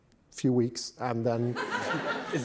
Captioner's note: laughter